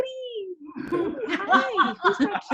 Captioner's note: laughs